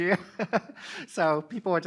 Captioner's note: laughing